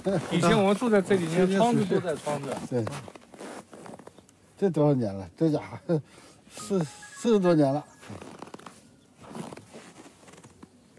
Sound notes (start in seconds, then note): 4.7 man speaks in Chinese language